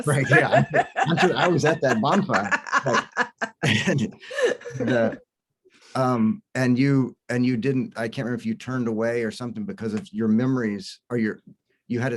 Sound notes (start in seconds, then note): 0.0 laughs